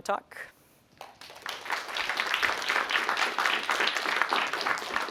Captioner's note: applause